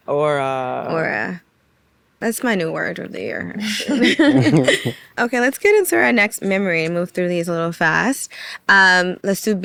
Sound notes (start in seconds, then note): 3.6 laughing